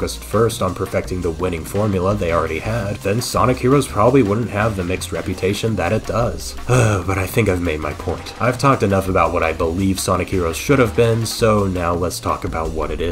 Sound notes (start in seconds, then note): 6.6 sigh